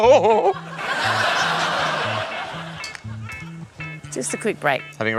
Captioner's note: laughter